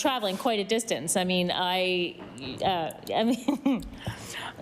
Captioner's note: laughter